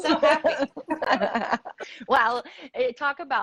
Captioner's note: laughs